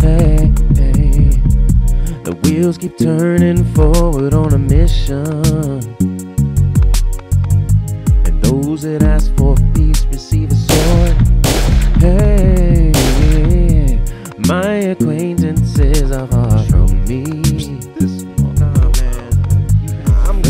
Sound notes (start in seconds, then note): 10.7 gunshots